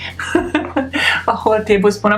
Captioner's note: laughs